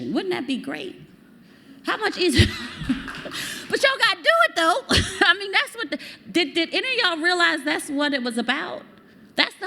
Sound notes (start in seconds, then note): 2.5 applause